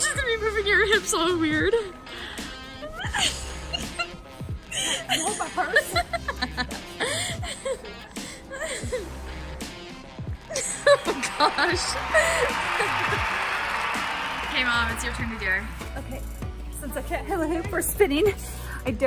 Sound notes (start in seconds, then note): 6.7 laughing